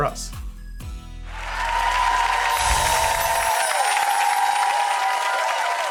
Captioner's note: audience cheering; bells chiming; audience clapping